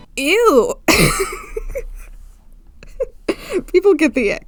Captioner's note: laughs